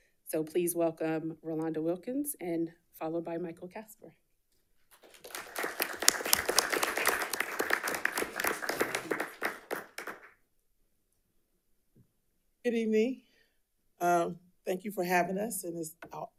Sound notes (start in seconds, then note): 4.9 audience applauding